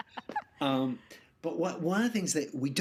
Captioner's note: laughing